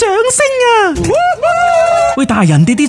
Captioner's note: cheering